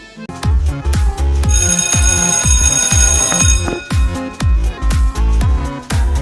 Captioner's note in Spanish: Suena la campana